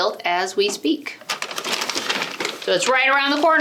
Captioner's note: bag rustles